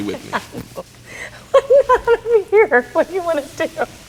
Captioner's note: laughing